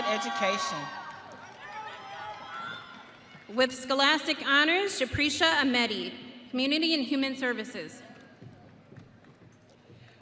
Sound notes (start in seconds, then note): 2.6 audience cheering